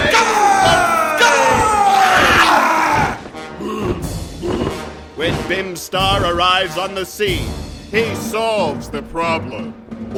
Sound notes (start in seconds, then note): 1.7 more hideous shrieking, flapping wings; 3.2 bestial panting, flapping wings